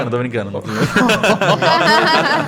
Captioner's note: laughter